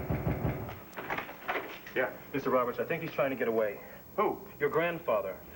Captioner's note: knock on door